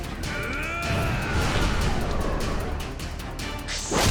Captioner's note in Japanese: 叫び声